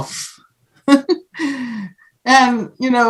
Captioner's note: laughs